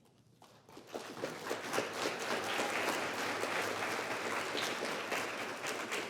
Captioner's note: applause